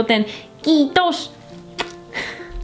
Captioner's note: kiss